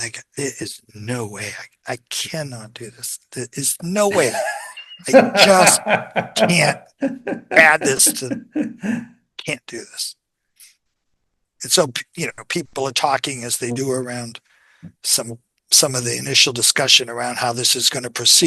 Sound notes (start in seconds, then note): 8.8 INTERVIEWER: laughs